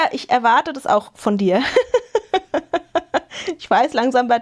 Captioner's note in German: gelächter